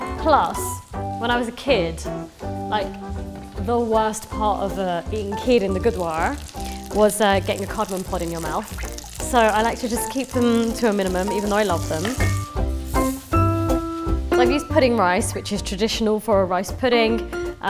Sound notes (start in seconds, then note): 8.8 pan sizzling; 12.5 bright music